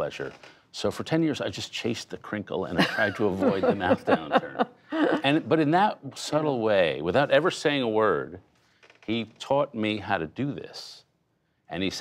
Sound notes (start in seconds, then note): 4.6 laughter